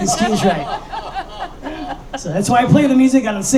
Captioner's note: laughing